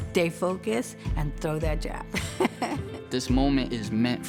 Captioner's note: laughing